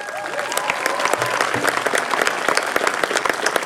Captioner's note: applause